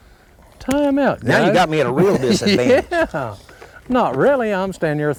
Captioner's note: laughter